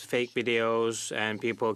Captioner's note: speaking French